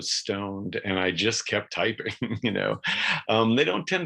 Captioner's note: chuckles